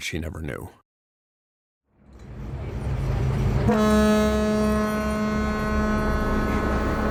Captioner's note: fog horn, boat engine sounds, birds chirping